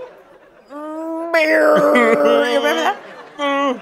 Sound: pained crying

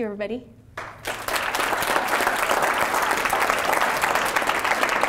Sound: audience applauds

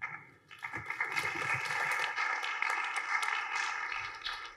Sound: applause

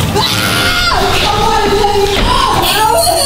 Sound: screaming

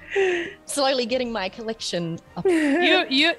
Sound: laugh

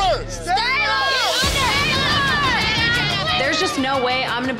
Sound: crowd clamoring

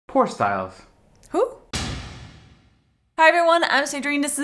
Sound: bang

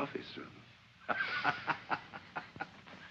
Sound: laughs

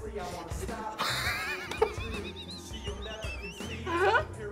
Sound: laughing

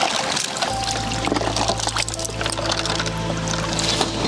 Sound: chain rattling

